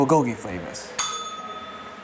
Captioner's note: bell rings